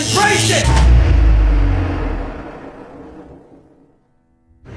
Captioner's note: generator dying